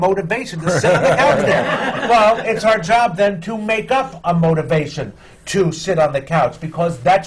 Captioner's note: laughter